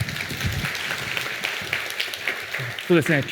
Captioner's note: applause